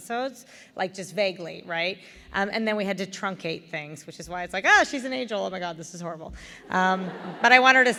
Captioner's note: laughter